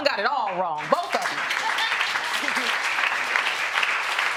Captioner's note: audience applauding